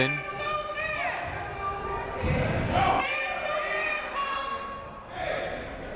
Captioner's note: people shouting in the crowd